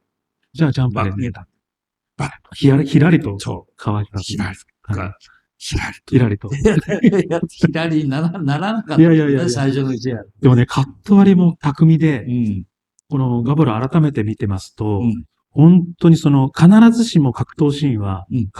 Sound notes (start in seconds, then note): 6.5 laughs